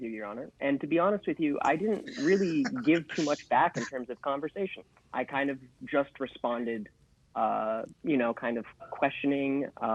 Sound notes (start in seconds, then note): 1.3 laughing